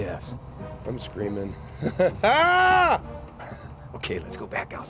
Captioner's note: shouts; chuckles